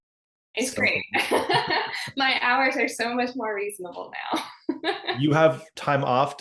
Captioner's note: laughing